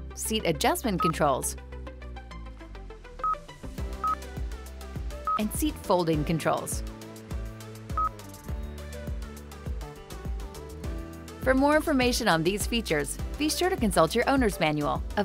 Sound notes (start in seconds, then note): 3.3 screen beeps; 8.0 screen beeps